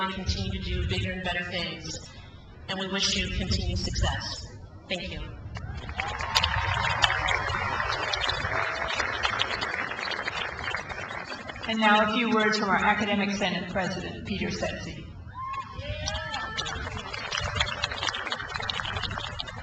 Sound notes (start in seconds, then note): 5.6 crowd applauds; 16.0 crowd applauds